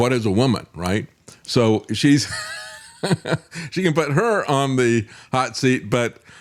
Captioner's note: laughs